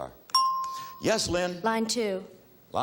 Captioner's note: bell chimes